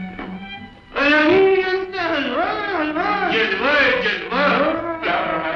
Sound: speaking 'foreign' language

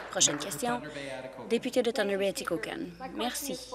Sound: applause

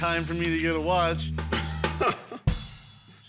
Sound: laughs

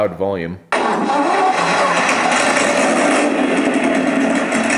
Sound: engine starting; engine revving

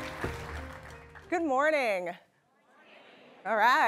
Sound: applause

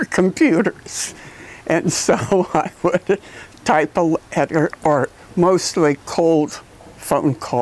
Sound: laugh

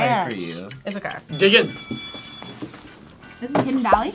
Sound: bell rings

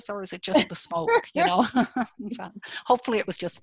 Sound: laughs

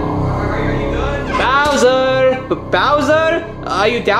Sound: vent creaking

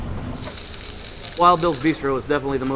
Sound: sizzling

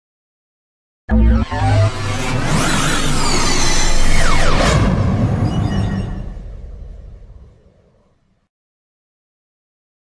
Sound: sound of morphing

